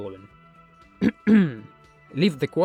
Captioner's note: clears throat